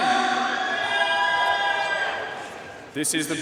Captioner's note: audience cheering and applauding